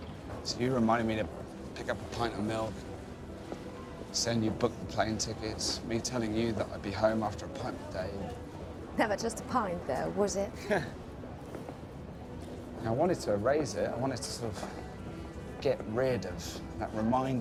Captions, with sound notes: So you reminded me to pick up a pint of milk, saying you'd booked the plane tickets, me telling you that I'd be home after a pint with Dave. - Never just a pint, though, was it? (laughing) - I wanted to erase it, I wanted to sort of get rid of that reminder